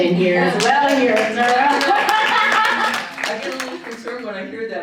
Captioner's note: audience applauding